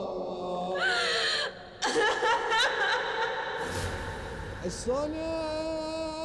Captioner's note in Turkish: Ağlama sesleri